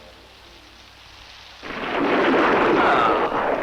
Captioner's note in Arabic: هدير الرعد